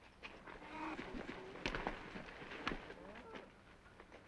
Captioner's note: cows mooing